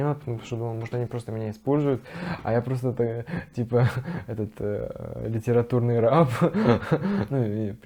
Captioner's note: laughs